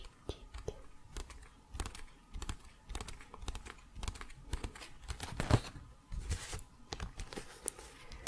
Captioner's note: tapping on pages